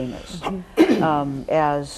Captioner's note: man coughs